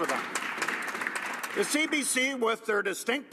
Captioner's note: applause